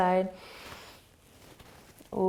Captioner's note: inhaling